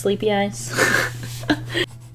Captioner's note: chuckle